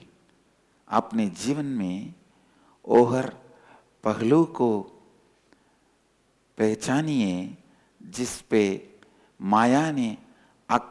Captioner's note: hindi